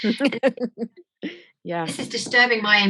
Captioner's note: laughing